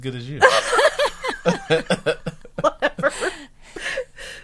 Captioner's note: group laughing